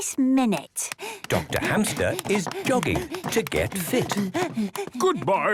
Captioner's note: panting